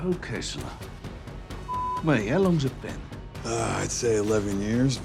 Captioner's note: beep